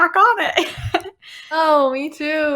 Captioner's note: laughing